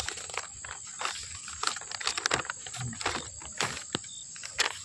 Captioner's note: paper Crumpling